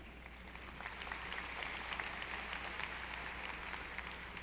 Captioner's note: audience applauding